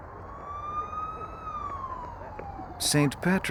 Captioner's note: siren